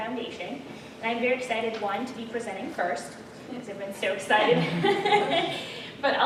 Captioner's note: laughter